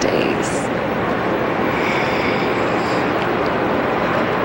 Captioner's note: sighing